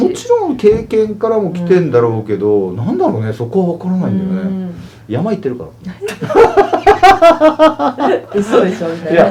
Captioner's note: laughs